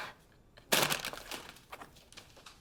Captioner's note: bag crackling